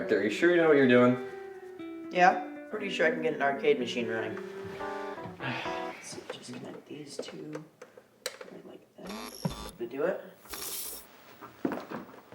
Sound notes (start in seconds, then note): 9.3 electricity crackling